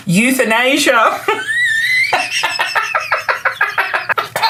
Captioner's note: belly laughs